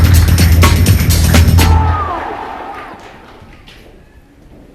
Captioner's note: applause